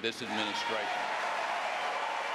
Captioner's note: applause